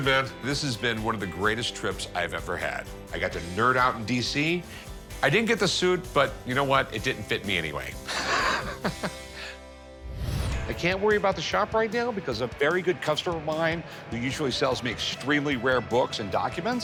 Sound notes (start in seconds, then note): 8.0 Rick laughs